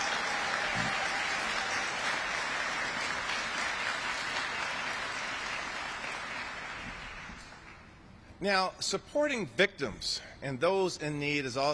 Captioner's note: applaus